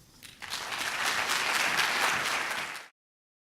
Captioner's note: applause